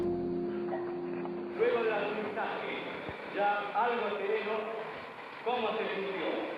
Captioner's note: man speaking Spanish